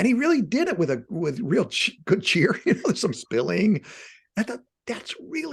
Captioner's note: laughing